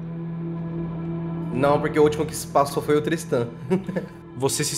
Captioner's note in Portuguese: riso